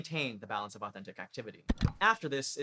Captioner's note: click